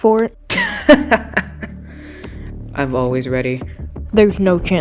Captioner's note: laughs